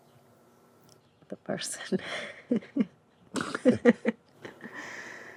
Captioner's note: both laugh